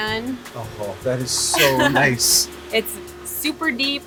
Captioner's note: laughs